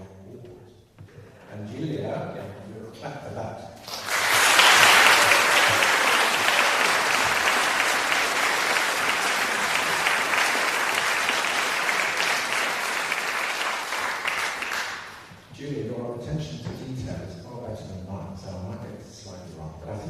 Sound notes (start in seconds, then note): 3.8 applause